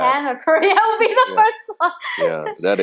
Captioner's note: laughing